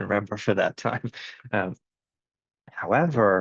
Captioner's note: laughs